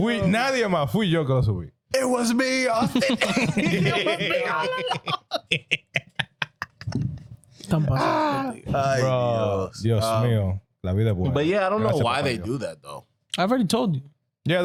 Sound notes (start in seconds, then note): 5.4 laughing; 5.4 speaking In Foreign Language